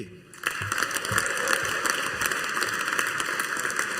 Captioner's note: audience applauding